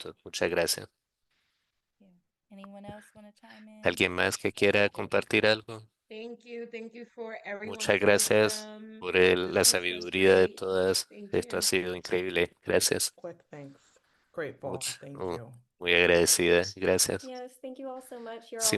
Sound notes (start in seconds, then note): 6.1 hablando inglés